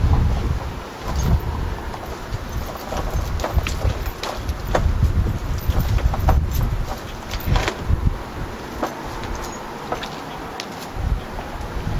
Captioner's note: more chain rustling